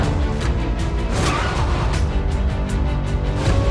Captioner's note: tyres screeching